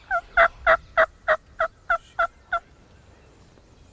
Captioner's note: turkeys gobbling; turkey call